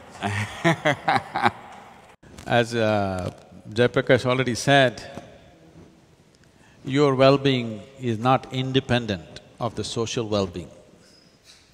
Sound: laughter

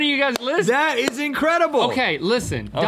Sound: clapping

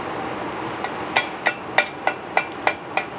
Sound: pot clangs

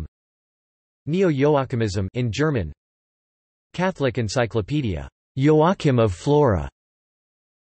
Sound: in German

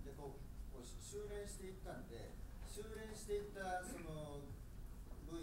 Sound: speaking in foreign language

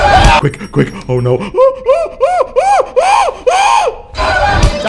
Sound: screams; screams

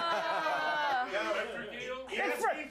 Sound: laughter

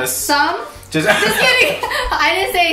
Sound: chuckles

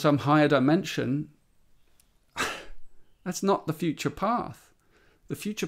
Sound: laughs

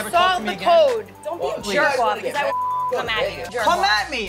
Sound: beep

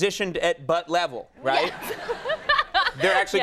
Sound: Ming-Na laughing

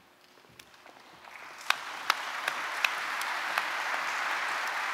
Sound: audience applauding

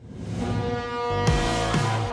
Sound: ship horn blaring

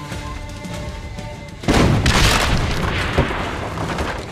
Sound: explosions

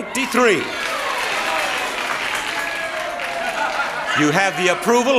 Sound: audience cheering

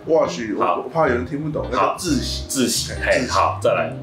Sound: chinese

